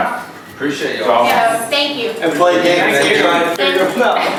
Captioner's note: overlapping joyful talk